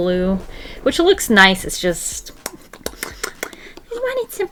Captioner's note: mouth smacking